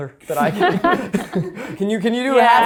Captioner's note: laugh